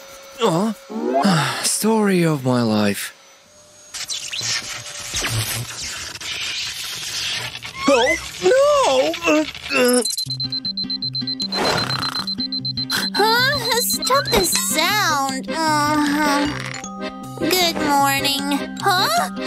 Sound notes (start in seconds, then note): 5.4 snoring; 15.1 grumbles; 16.1 spits